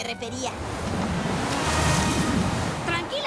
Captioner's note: whoosh